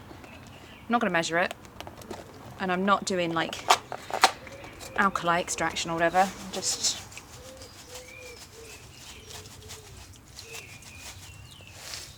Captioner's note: shakes box